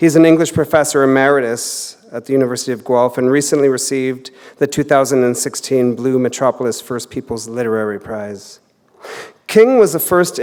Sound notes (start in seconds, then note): none